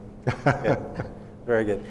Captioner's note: laughing